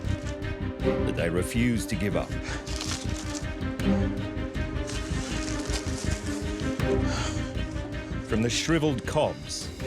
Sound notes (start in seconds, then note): 6.8 gasps